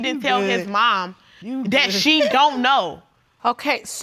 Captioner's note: continues scoffing